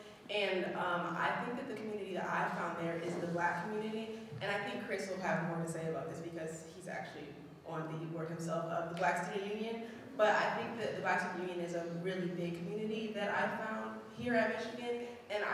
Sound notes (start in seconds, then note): none